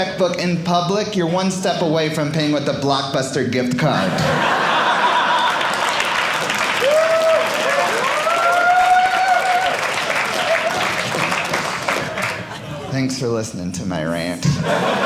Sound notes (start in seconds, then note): 3.8 audience laughing; 7.1 audience applauding